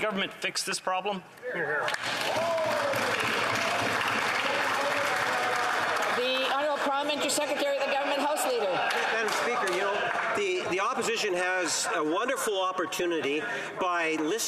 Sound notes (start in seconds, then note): 8.6 applause